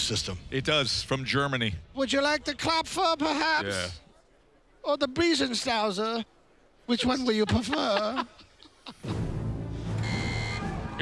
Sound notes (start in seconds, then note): 1.9 German accent; 7.3 laughs